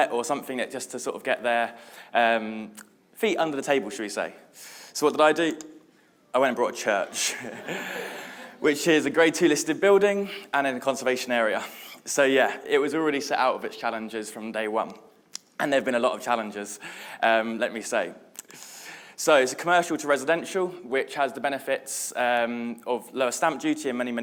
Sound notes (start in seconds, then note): 7.0 audience laughing; 7.0 laughs